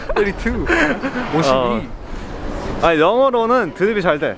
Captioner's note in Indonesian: Pria tertawa; tertawa